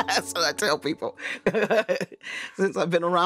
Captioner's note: laughing; laughing